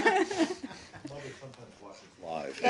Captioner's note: laughter